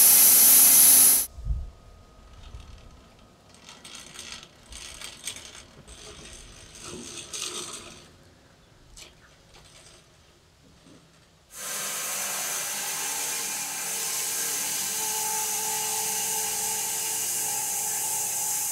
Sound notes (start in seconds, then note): 3.5 machine rattles; 11.5 saw whirring